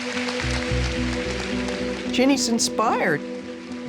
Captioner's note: audience applauds